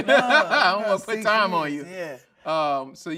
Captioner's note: laughing